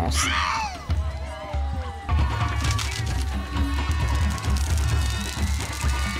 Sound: crowd chattering; thrilling drum music

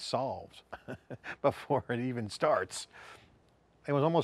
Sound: laughing

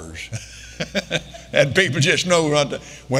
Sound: Kenneth laughing

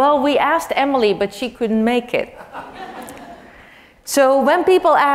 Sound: laugh

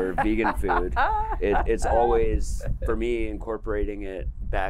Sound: laughter

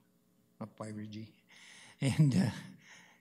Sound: chuckles

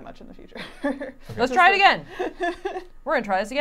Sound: chuckling

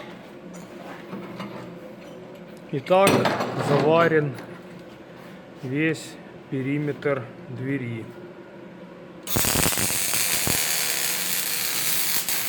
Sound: welding sound

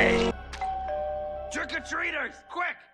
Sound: doorbell rings

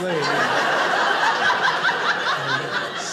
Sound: audience laughing

